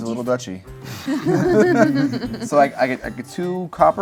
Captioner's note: laugh